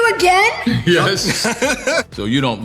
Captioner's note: laughs